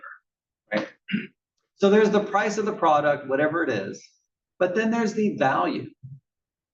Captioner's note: cough